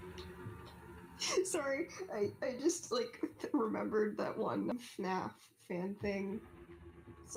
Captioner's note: laughs